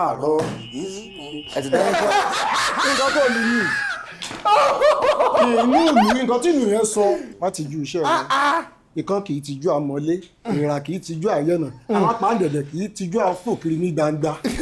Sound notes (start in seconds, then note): 0.1 buzzer sounds; 0.8 laughs